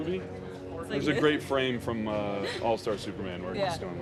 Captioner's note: laughs